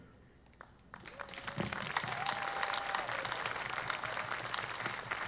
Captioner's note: audience applauding